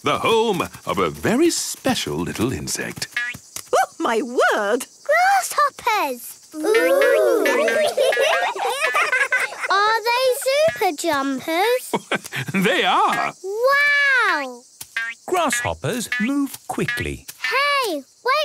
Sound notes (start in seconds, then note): 6.6 laughing; 12.0 laugh